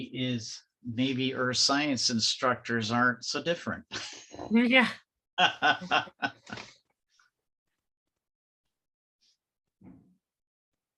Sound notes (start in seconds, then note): 5.4 laughs; 5.4 chuckles